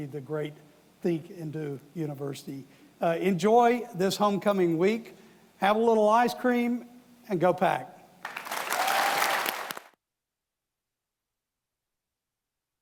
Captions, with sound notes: the great think and do university. Enjoy this homecoming week. Have a little ice cream and go Pack. (audience applauding)